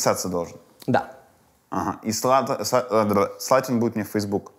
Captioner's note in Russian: сбивается с речи, болтает языком